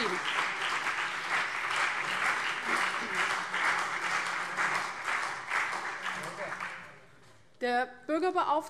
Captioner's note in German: Beifall CDU und BÜNDNIS 90/DIE GRÜNEN